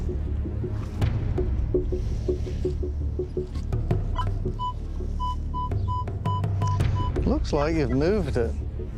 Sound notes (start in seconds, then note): 3.4 beeping sounds